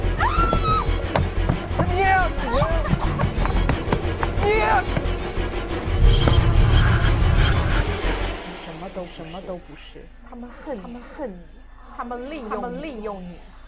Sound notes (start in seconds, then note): 0.0 menacing orchestral music; 2.9 menacing orchestral music; 5.3 menacing orchestral music; 7.8 Mandarin language; 9.7 Mandarin language; 13.0 Mandarin language